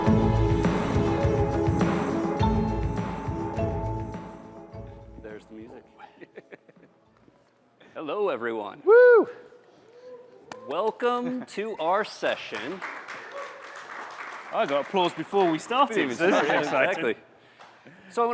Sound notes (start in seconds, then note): 6.0 laughter; 10.1 cheers; 11.6 applause; 16.0 laughter